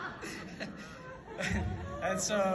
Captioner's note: laughs